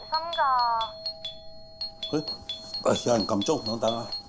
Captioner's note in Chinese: 門鈴聲